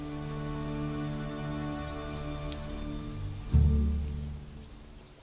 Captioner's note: birds chirping